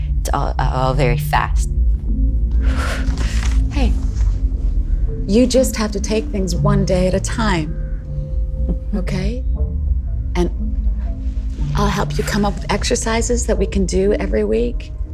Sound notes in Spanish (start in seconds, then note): 2.5 exhala